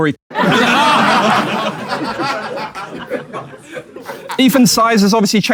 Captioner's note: people in room laughing